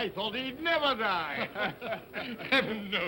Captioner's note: men chuckle